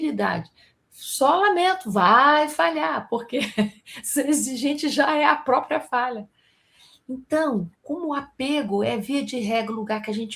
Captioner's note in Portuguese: risadas